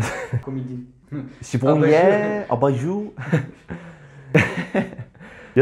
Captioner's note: with French accent; laughter